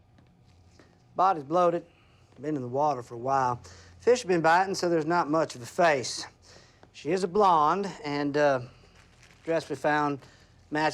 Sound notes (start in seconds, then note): none